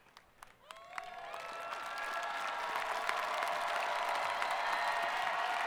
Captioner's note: students cheering